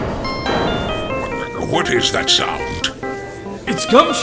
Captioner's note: ringtone plays; gallery chattering